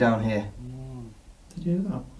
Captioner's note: ghostly Voice